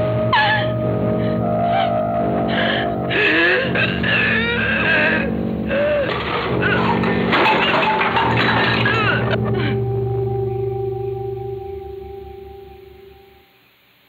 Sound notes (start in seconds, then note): 2.4 terrified gasps; 5.4 crashing noise